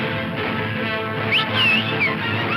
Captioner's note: whistling; horse whinnying